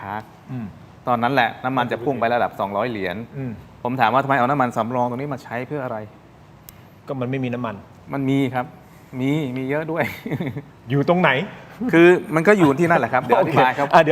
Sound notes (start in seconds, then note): 10.0 laughter